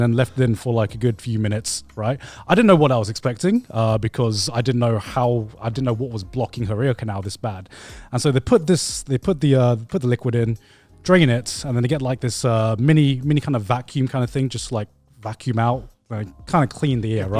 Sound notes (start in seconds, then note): none